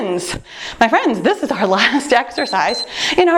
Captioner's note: timer beeps